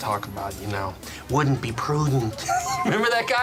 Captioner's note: imitates Dana Carvey as George Bush; laughs